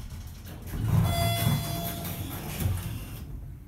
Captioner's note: elevator Chimes